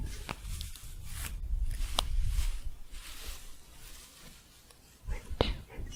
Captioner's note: scratchy shuffling